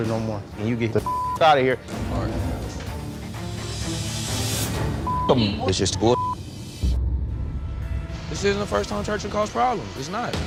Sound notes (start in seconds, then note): 1.0 beep; 3.5 suspenseful music; 5.0 beep